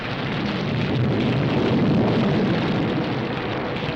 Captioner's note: thunder rumbling